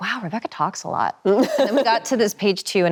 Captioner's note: Emily laughs cheerfully